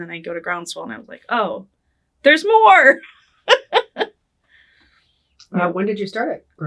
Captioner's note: laughing